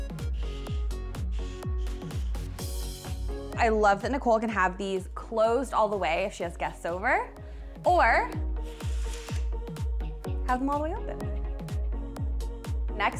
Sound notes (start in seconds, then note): 0.2 upbeat music; 8.7 curtains reeling; 8.7 upbeat music; 12.0 upbeat music